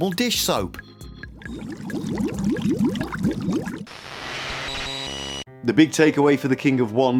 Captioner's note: soap bubble sounds